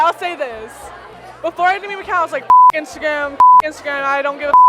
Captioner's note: beep